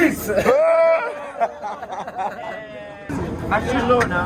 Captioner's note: laughter